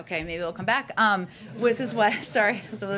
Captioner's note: laughter